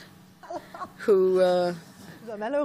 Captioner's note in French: rires